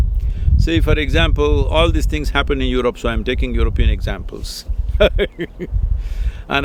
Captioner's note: laugh